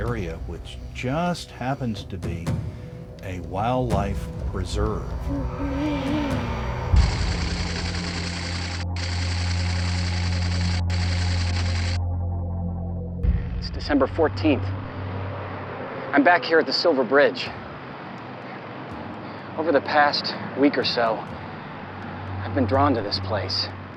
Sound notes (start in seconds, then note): 4.7 owl hooting